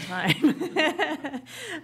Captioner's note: laughter